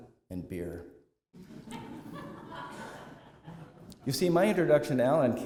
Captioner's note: laughter